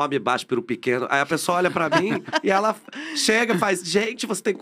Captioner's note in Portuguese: risos